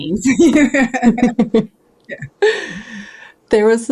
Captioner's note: laughing